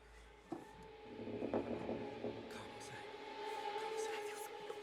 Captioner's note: wood creaking